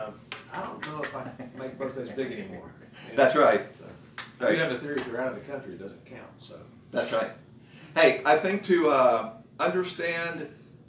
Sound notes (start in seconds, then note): 0.9 laughs